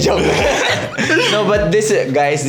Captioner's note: laughs